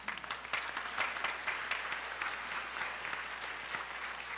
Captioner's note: applause